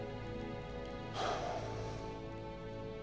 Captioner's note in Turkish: İç çekme sesi